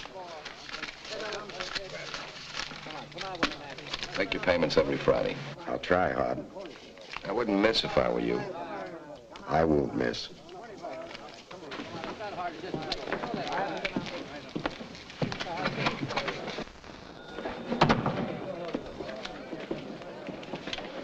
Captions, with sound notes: (cash rustling) - Make your payments every Friday. - I'll try hard. - I wouldn't miss if I were you. - I won't miss. (men chattering) (door thuds shut)